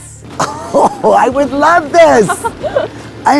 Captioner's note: chuckles